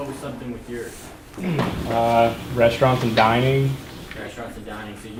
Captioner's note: voiceover